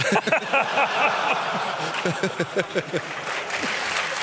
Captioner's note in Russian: смех; публика аплодирует